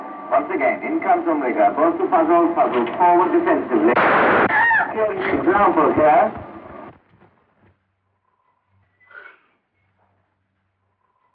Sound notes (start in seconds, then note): 0.3 voice Over Radio; 3.9 gun Firing